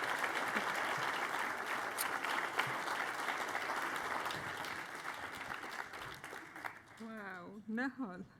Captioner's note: applause; laughter